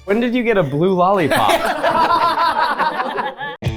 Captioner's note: everyone laughing; upbeat music